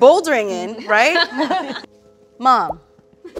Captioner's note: all laugh